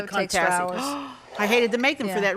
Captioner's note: host gasps